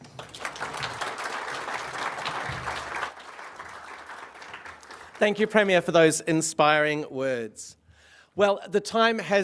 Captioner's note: applause